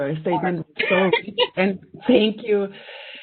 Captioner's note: laughing